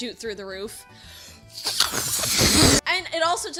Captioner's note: blowing aggressively